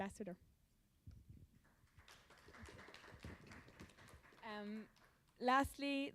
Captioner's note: applause